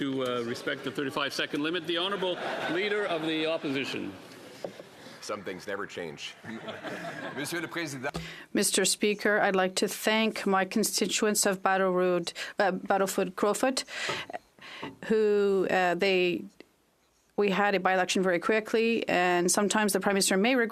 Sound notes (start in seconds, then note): 15.0 speaking French